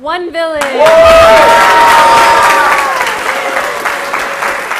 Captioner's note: applause